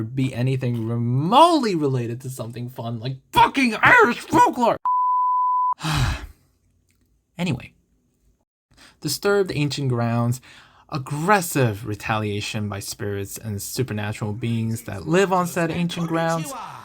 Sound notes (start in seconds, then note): 4.1 sigh of mounting therapy bills